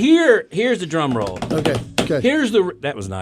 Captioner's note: hands tapping rhythmically